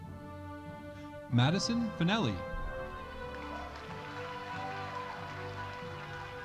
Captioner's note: audience cheering